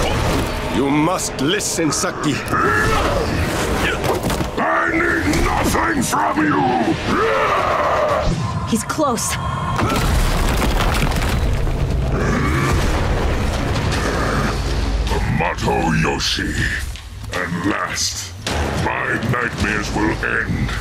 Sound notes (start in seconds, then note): 2.1 grunting; 7.0 roaring